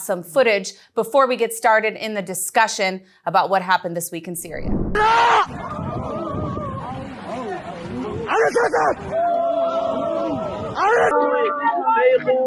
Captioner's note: screaming